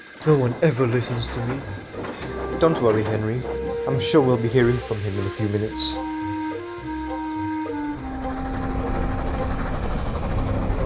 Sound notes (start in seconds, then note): none